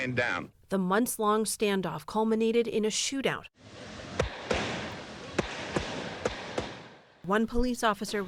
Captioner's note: voice-over